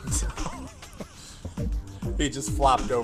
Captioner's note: both laughing